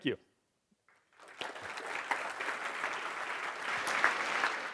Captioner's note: audience applauding